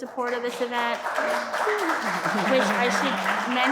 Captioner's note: audience applauding